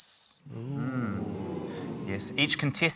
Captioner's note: audience 'ooh's